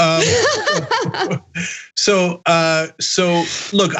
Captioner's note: laugh